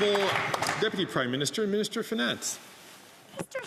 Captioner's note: some Applause